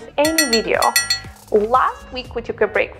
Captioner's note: bell ringing